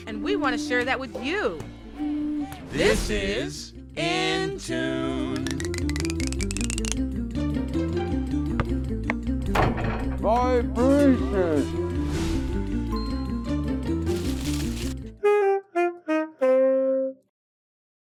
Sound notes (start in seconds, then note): 5.9 upbeat music; 9.6 hammer bangs; 12.2 upbeat music; 13.9 jazzy music